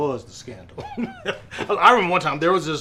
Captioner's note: laughs heartily